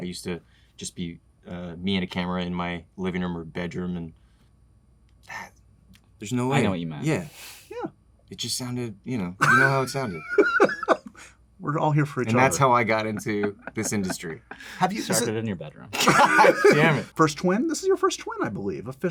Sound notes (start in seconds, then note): 9.3 laughs; 16.0 laughter